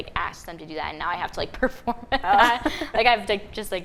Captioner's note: laughing